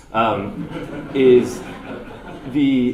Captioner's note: audience laughter